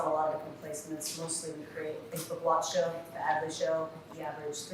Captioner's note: faintly speaking